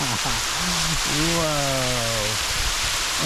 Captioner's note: laughs